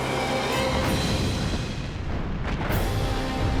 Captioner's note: gunfire